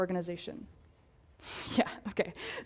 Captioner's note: laugh